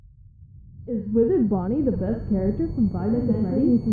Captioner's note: muffled voice